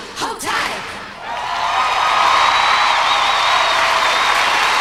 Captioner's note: applause and cheers